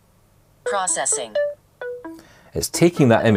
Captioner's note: processing tone